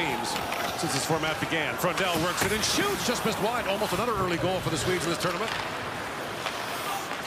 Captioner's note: cheering and Applause